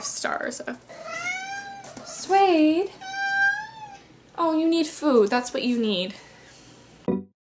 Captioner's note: frustrated cat meows; modern upbeat music